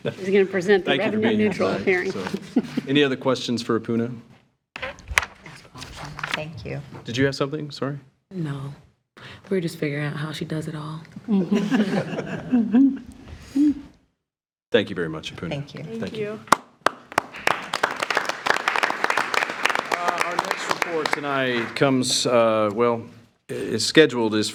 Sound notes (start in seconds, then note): 1.0 trustees chuckling; 11.3 trustees chuckling; 11.3 attendees chuckling; 16.4 all applauding